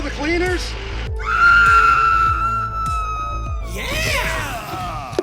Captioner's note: victim screaming